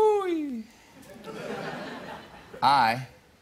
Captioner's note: laughter